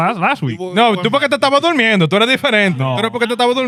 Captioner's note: speaking In Foreign Language